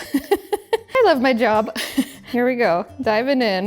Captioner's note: laughs; giggles